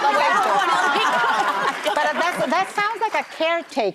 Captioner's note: audience laughs